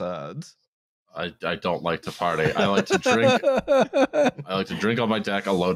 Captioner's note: laughs